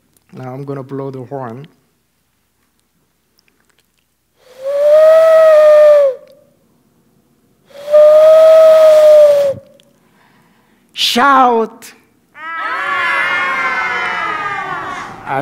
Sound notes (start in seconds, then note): 4.7 horn like sound; 7.8 horn like sound; 12.3 kids shouting